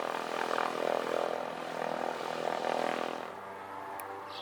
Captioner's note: airplane engine hums